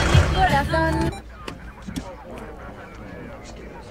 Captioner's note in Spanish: Radio policial